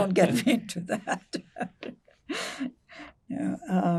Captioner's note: laughing